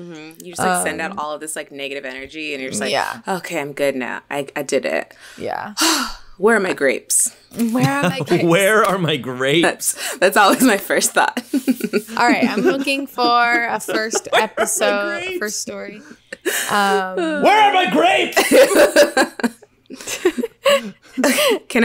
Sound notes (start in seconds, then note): 5.7 sighs; 7.6 laughs; 18.2 all laughing